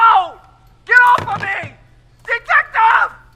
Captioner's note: phone receiver clatters